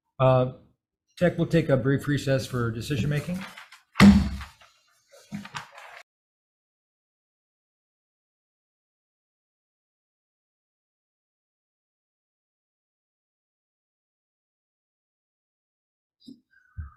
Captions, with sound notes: Tech, we'll take a brief recess for decision making. (gavel bangs)